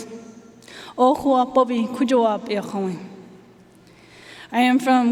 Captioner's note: speaking foreign language